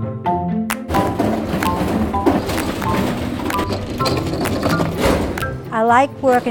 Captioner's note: cart noise